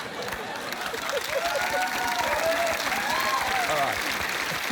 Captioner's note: applause